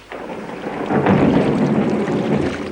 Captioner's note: thunder clapping